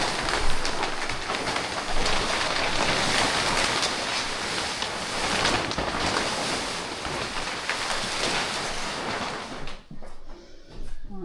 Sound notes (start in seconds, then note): 0.0 water splashing